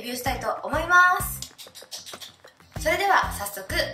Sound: clap

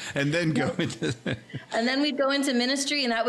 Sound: laughing

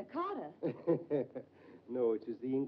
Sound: Dr. Manetta laughs

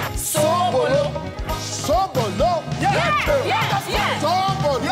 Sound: in foreign language

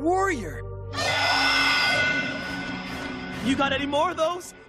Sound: roaring

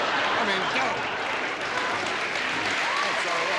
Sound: audience laughs

